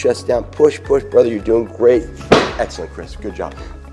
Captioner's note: thuds